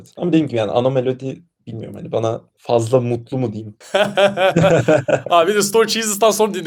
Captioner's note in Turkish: kahkaha